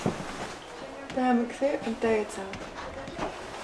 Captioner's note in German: auf Schweizerdeutsch